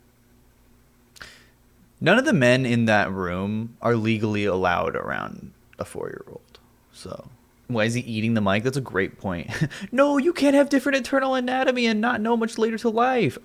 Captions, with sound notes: None of the men in that room- -are legally allowed around a four-year-old... So... “Why is eating the mic” That's a great point. [chuckles] “no! you can have different internal anatomy- -and not know much later in life!”